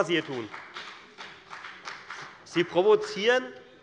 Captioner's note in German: Beifall bei der FDP - Widerspruch bei der CDU